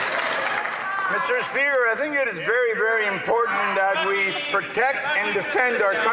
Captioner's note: some Applause